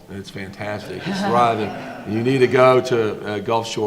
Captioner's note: audience laughs